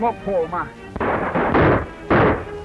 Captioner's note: gunshots